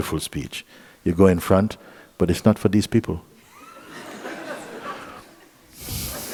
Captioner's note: laughter